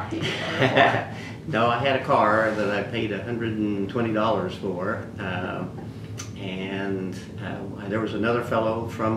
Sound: laughs

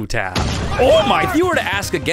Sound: explosion

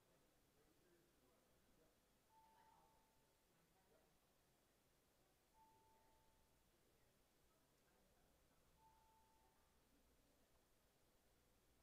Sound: bells ringing

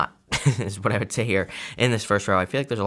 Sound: chuckling

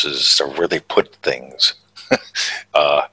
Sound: chuckles

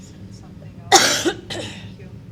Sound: coughing

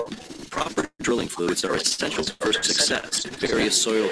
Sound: audio interference

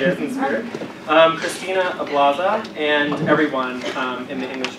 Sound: laugh

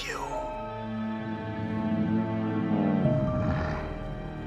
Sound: grunting

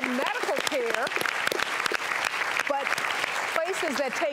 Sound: audience applauds

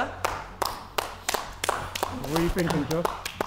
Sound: applauding

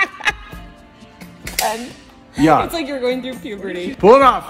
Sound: producer - laughing

